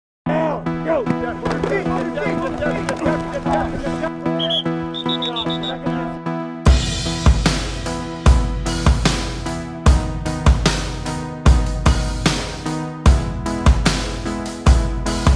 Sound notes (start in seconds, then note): 0.0 bright music; 4.3 whistle blows; 6.9 upbeat music